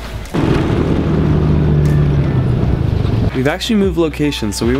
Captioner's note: snowmobile engine rumbling